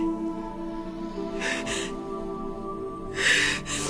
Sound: sobs

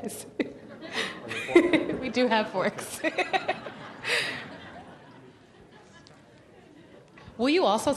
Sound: laughs

